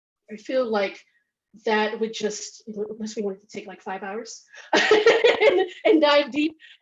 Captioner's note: laughs